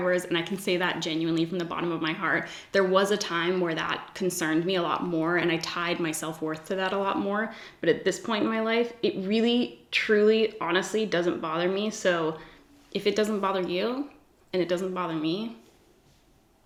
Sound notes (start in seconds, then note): none